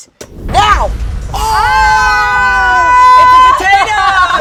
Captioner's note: dramatic music; group shouting